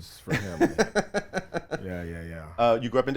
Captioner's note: laughs